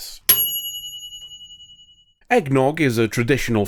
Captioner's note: bell ding